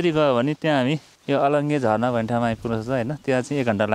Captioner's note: waterfall